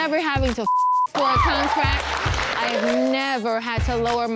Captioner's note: beep; crowd cheering